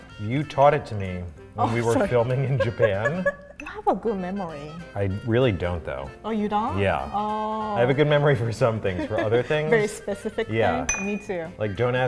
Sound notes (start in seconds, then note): 1.7 laughs; 8.8 laughs